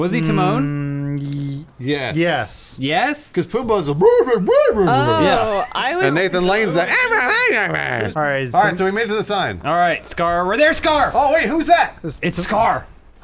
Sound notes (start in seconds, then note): 4.7 mocks voice; 7.3 high pitched voice